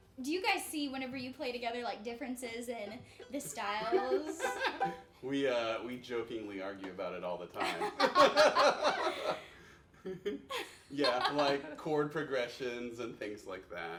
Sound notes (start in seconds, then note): 3.3 laughs; 7.6 all laughing